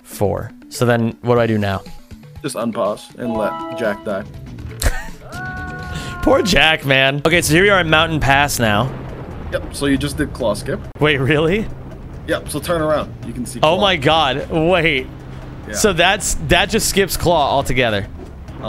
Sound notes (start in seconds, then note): 4.8 laughs